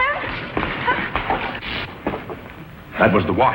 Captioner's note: short electrical buzzing